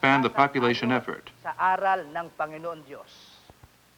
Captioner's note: filipino speech